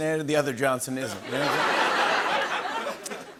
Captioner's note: laughter